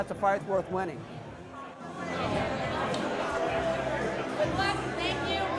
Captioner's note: crowd conversations